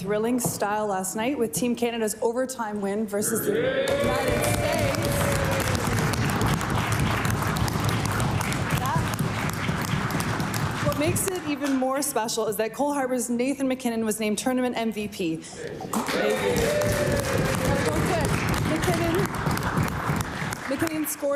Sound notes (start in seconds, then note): 10.5 cheering and Applause